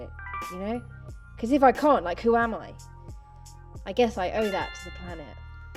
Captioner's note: notification sound; notification sound